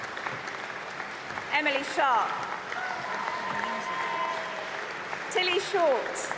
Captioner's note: applause; applause and cheering